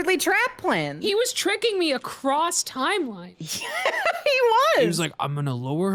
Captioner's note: laughs